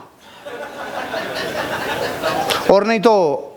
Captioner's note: laughing